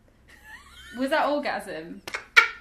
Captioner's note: laughing